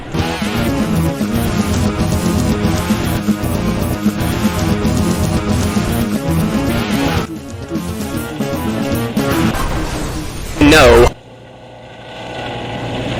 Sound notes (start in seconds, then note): 9.1 crashing Noises; 10.9 denial Noises